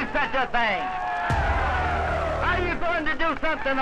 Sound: crowd cheering

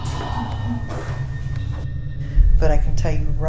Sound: gasping

